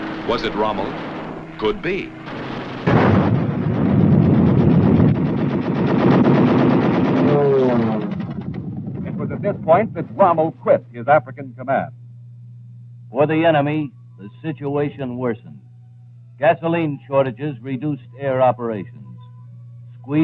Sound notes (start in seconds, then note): 2.2 guns firing; 2.9 booming